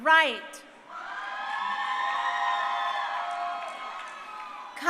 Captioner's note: crowd cheering